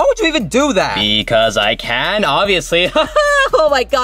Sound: laughing

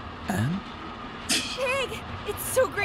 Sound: scoffs

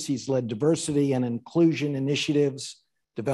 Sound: none

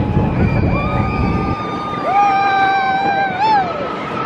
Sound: screaming

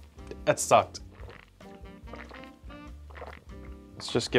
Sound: gulping

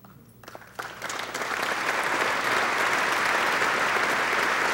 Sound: audience applauding

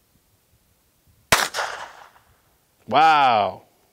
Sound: gun fires

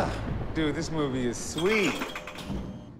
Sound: none

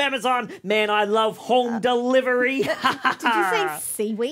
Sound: laughs

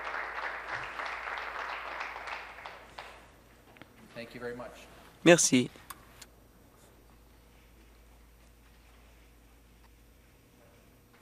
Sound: applause

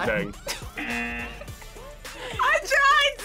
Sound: laughs; buzzer rings

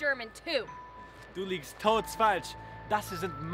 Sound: foreign language

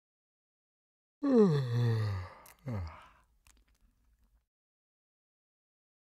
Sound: sound of yawning

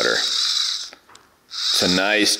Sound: motorized chain sound

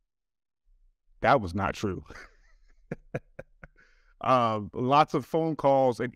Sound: chuckles

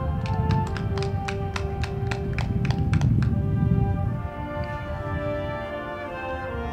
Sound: crowd clapping; band music

